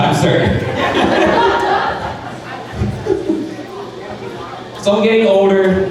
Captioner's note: crowd laughing